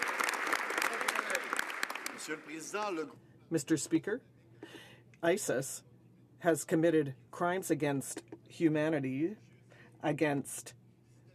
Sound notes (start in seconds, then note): 3.1 some Applause